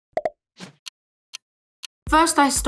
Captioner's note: clock ticks; soft, upbeat music